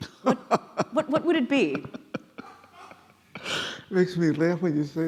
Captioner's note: glass laughing